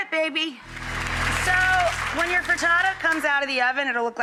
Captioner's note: audience applauding